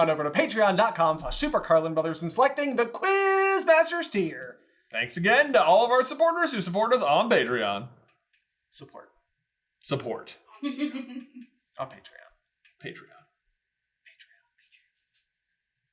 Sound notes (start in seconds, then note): 10.6 laughing; 14.0 whisper